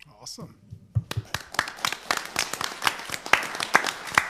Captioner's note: all applaud